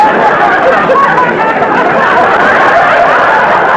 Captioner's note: audience laughter